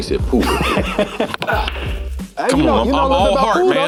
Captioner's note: laughing